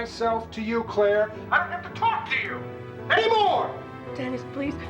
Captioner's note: yelling